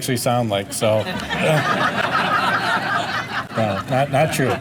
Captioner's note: audience laughter; laughs